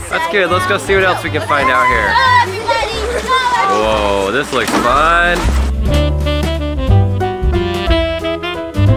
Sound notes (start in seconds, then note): 2.6 children yelling; 6.2 jazz music